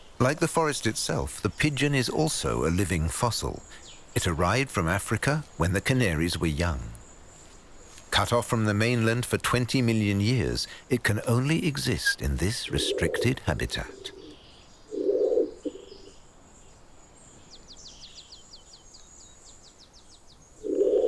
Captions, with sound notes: Like the forest itself, the pigeon is also a living fossil. It arrived from Africa when the Canaries were young. Cut off from the mainland for 20 million years, it can only exist in this restricted habitat. (pigeon cooing) (birds chirping)